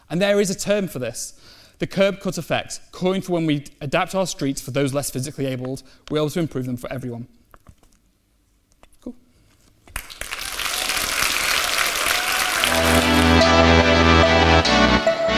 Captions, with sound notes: And there is a term for this, the curb cuts effect calling for when we adapt our streets for those less physically abled, we're able to improve them for everyone. Cool. (audience applauds) (upbeat music)